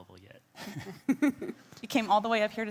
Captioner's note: group laughing